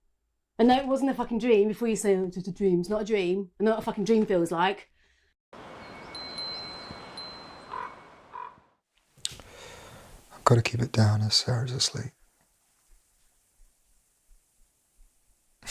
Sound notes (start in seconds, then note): 5.6 chimes ringing